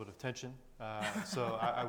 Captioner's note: chuckling